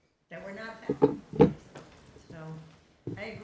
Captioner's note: mic interferance